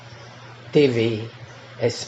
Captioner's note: radios and tv